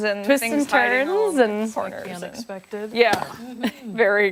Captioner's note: laughter